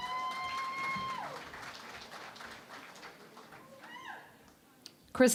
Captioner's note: cheering and Applause